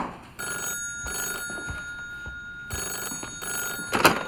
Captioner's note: phone rings